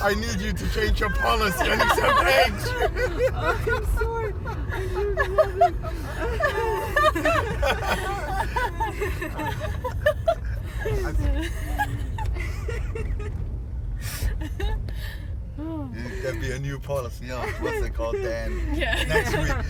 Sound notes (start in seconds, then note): 4.0 hysterical laughter; 12.3 laughter dies down